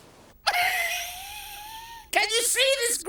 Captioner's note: laughing